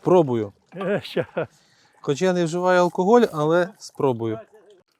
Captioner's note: laughs